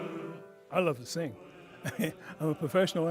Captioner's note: chuckles